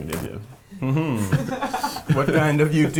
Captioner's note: laughing